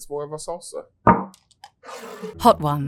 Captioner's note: bottle thuds and scrapes